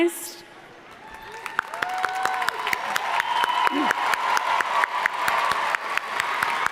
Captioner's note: audience cheering and applauding